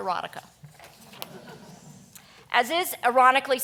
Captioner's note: audience chuckling quietly